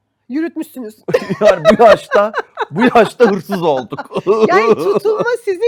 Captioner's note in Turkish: kahkaha